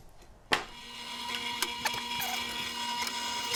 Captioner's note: drill whirring